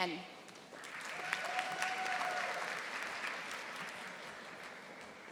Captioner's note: audience applauding